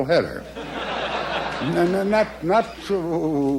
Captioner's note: crowd laughs